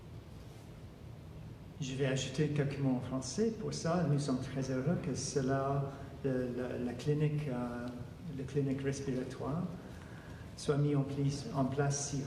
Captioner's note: speaking French